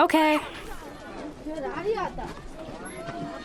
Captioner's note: boy's English Voiceover